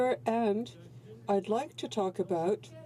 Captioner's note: speaking French